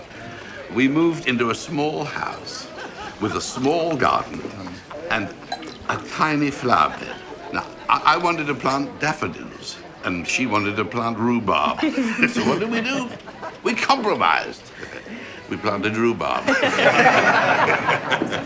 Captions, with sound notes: we moved into a small house with a small garden and a tiny flowerbed. Now, I wanted to plant daffodils and she wanted to planet rhubarb. So what do we do? We compromised. (chuckling) We planted rhubarb. (laughing)